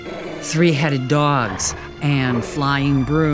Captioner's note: dogs growling